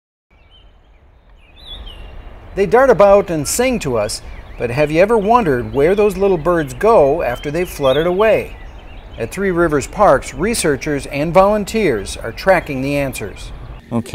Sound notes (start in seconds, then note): 0.6 birds chirping